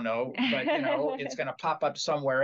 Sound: laugh

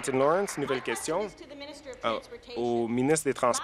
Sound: applause

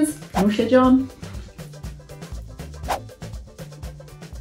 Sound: speaks foreign language

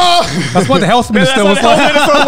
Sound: screaming

